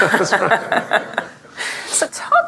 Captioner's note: laughter